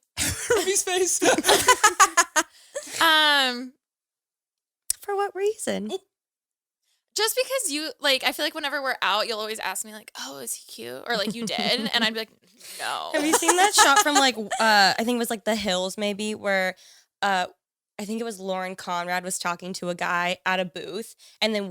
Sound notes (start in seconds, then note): 0.2 laughs; 2.1 all laughing